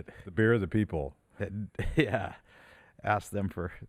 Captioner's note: chuckles